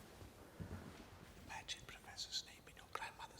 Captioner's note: whispering